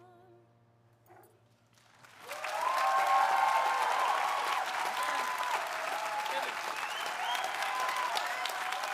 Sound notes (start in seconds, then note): 1.7 audience applauding; 2.2 audience cheering